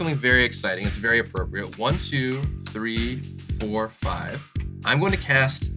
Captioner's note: counting